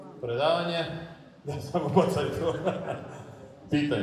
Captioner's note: laughs